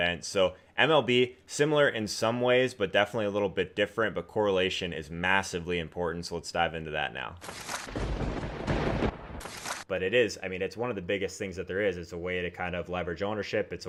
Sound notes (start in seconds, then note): 7.6 lightning crack and booming thunder